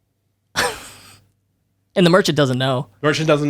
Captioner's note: laughs